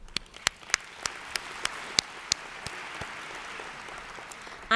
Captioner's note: audience applauds